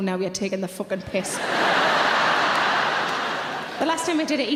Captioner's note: audience laughs